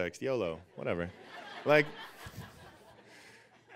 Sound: audience laughing

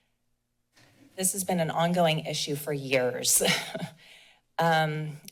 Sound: chuckles

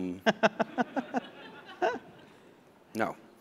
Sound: laughter

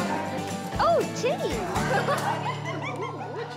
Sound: giggles

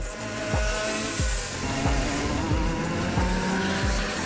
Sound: cars rev loudly

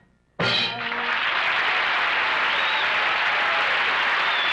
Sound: audience applauds

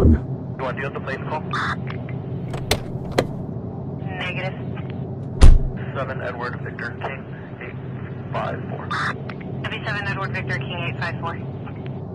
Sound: car door opening, car door closing

